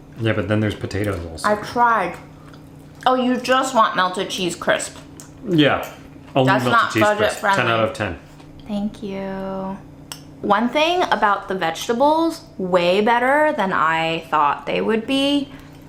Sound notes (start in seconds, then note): none